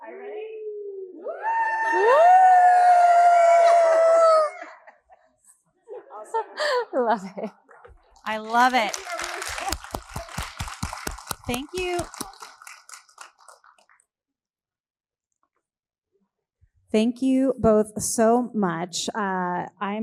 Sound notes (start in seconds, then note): 1.2 all screaming; 8.1 all applauding; 8.2 both applauding